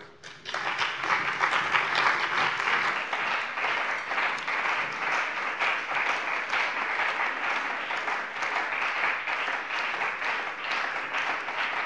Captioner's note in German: Beifall bei dem BÜNDNIS 90/DIE GRÜNEN und der CDU